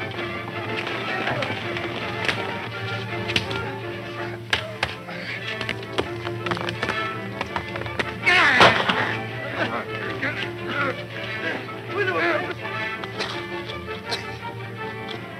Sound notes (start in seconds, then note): 8.1 men grunting; 8.6 gun fires